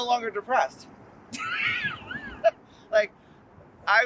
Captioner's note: chuckles